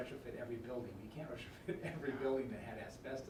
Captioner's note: laughing